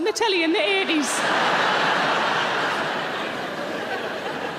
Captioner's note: audience laughs